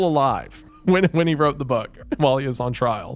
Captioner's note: laughing